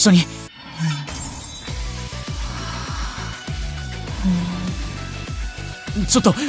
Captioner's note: eep